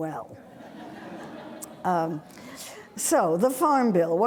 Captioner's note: audience laughing